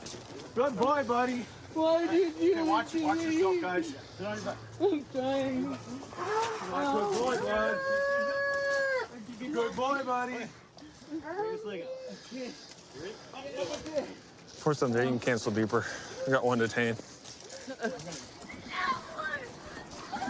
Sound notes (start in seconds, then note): 7.8 wails; 18.7 yelling